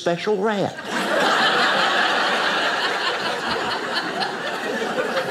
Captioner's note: audience laughing